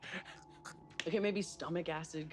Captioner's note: laughs and makes an effort sound; makes a choking sound